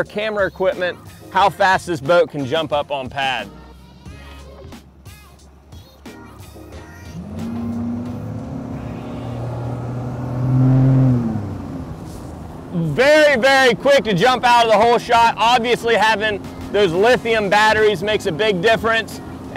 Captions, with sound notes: camera equipment, how fast this boat can jump up on pad. (boat engine roars) Very, very quick to jump out of the hole shot. Obviously having those lithium batteries makes a big difference.